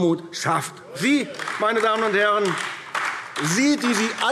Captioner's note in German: Beifall AfD